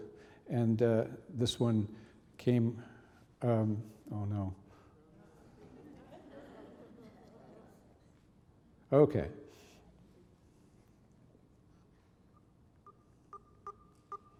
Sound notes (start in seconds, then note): 5.4 audience laughing